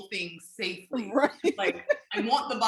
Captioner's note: laughing